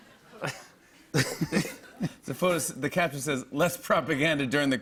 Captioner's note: laughter